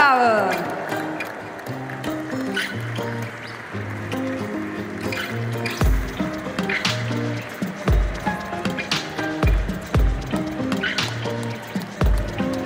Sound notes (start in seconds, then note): 0.6 applause; 1.8 ♫ Midtempo guitar music ♫